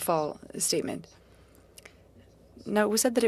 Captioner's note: speaking French